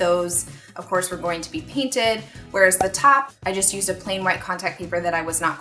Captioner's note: cork pop